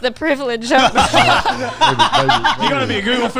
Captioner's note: all laughing